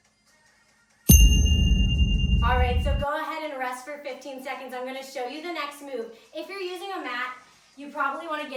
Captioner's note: ding